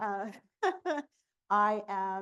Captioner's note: laughs